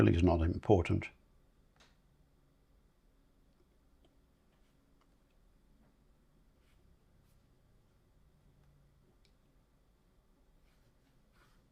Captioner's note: silence